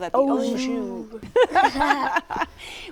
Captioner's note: laughter